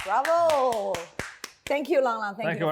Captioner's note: clapping